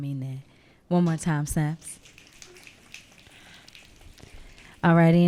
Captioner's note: audience snapping